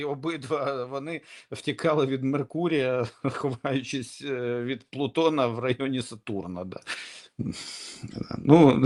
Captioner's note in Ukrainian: сміх